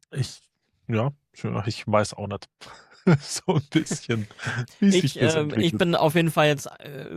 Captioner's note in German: gelächter